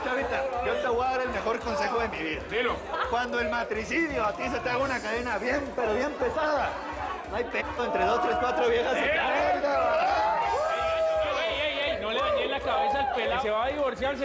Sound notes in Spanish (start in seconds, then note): 9.2 Gritos y exclamaciones